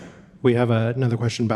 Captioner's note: audience laughing